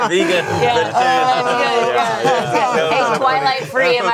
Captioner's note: group laughing